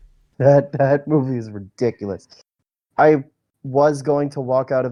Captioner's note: laughs